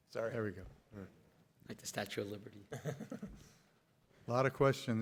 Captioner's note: everybody laughs